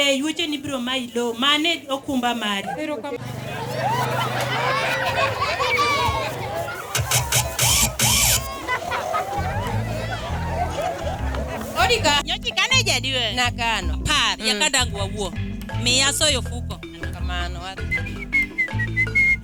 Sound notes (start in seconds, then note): 3.7 crowding laughing; 9.8 upbeat music